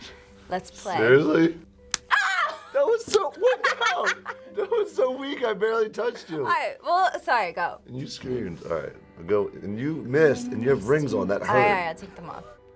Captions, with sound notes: >> Let's play. >> Seriously? [yells] That was so-- What the hell? That was so weak, I barely touched you. Alright, well, sorry, go. And you screamed. Alright. And you missed, and you have rings on. That hurt. Alright, alright, I'll take them off.